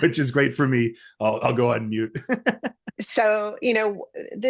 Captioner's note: laughs